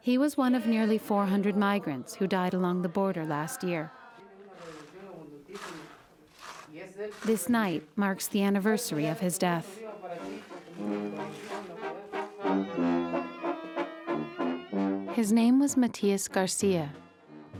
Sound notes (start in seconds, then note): 4.1 speaking Spanish in background; 10.1 brass band playing